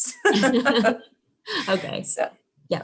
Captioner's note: laughing